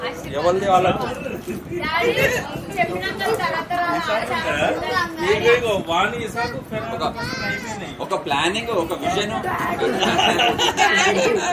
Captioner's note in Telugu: నవ్వు